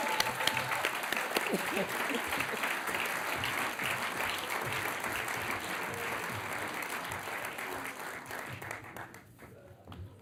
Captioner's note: applause